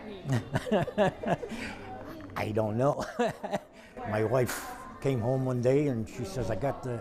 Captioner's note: laughter